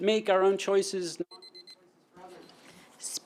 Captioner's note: timer beeping